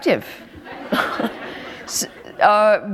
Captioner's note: laughter